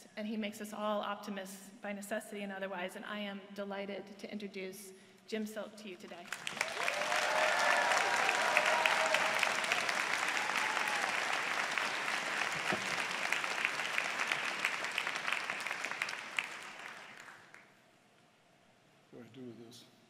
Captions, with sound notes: And he makes us all optimists, by necessity and otherwise. And I am delighted to introduce Jim Silk to you today. [APPLAUSE] What do I do with this?